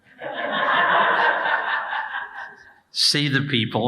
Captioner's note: audience laughing